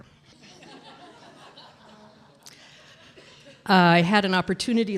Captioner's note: audience laughs